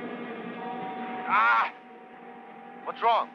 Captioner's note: man groans